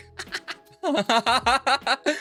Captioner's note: laughs